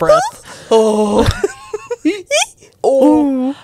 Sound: panel laughing

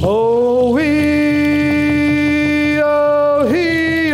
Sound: foreign vocalizing

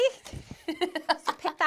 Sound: laughing

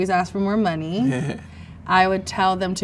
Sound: man chuckles

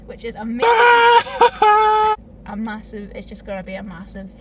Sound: with a joyful scream

